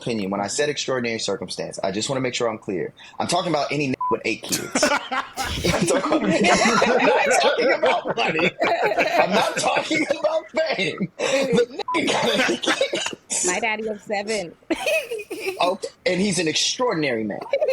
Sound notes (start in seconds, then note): 4.0 beep; 6.8 laughing; 11.8 beep